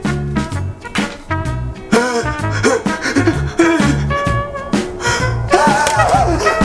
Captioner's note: participant moaning rapidly; cards clatter